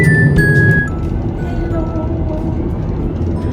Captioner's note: sorry for the bad quality noise